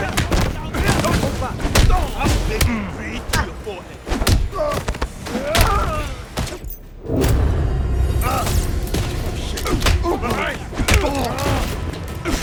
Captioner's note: groaning